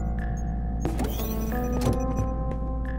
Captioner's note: high-tech door opens